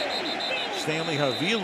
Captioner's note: whistle blows